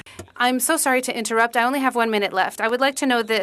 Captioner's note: speaking French